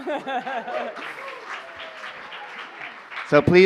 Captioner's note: cheers, applause